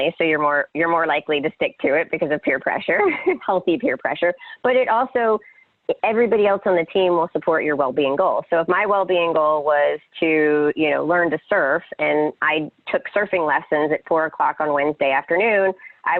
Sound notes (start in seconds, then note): 3.1 laughs